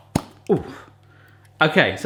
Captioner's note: pops